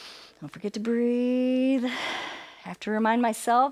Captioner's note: inhales; exhales